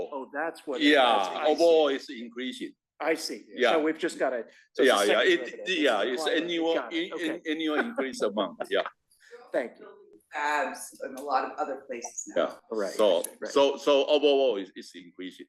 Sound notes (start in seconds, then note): 9.2 laugh